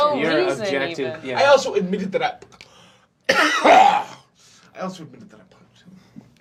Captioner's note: coughs